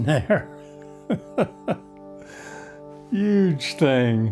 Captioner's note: laughs